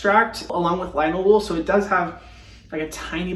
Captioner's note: sniffing